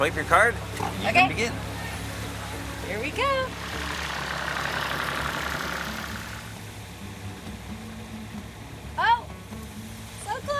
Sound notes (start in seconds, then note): 4.0 engine purring; 5.4 lighthearted folk music